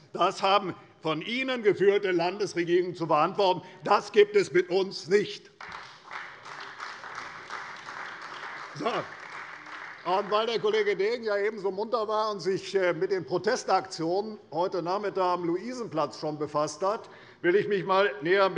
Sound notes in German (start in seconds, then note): 5.5 Beifall bei der CDU